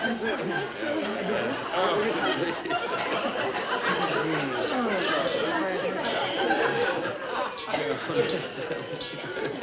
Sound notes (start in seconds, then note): 2.7 audience laughing; 2.7 people chattering